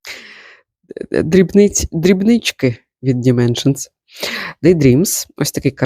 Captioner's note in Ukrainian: сопіння